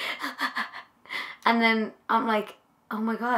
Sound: imitates crying

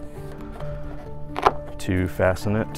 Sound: snapping

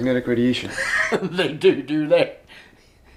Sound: brent laughs

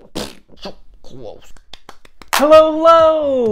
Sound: frustrated farts; clapping

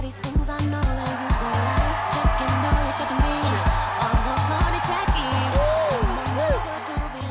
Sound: cheers and applause

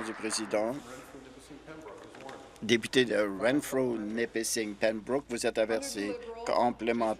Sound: applause

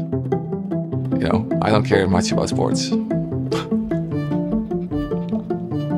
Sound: laughs; upbeat string music

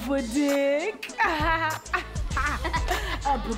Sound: laughing lightly

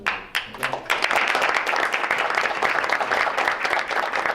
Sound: members applauding

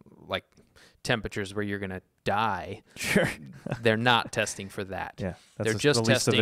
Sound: nervous laugh?

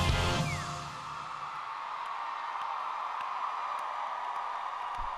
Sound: cheering

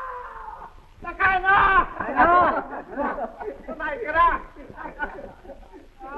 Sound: screaming; speaking japanese - laughter

